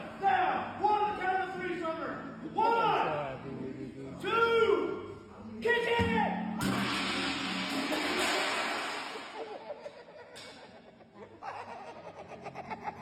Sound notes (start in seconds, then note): 6.6 gong hums and crashes; 9.3 onlookers laughing